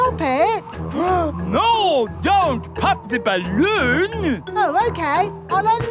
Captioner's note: gasps